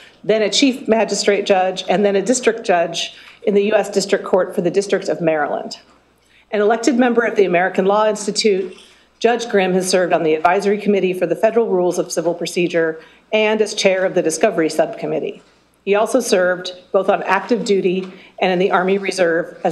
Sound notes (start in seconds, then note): none